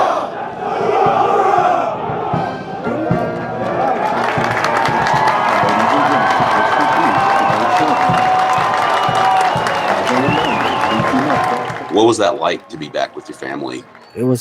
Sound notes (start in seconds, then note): 4.1 crowd cheers